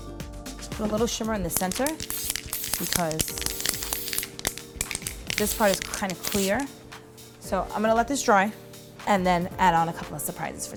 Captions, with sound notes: Put a little shimmer in the center (spray can hisses) because... this part is kind of clear. So I'm gonna let this dry and then add on a couple of surprises